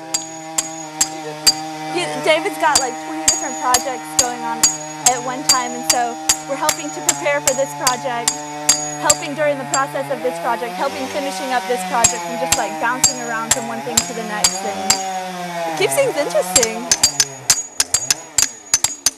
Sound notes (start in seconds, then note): 1.1 chainsaw wurring; 5.2 hammer tapping